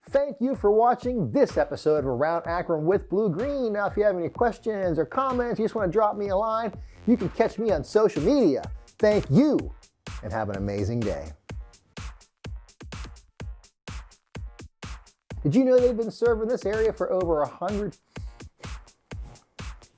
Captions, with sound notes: - Thank you for watching this episode of "Around Akron with Blue Green." Now, if you have any questions or comments, you just wanna drop me a line, you can catch me on social media. Thank you and have an amazing day. (upbeat music) Did you know they've been serving this area for over a 100 (sighs)?